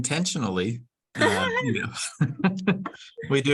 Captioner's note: laughs